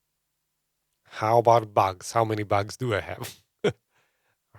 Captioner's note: laughs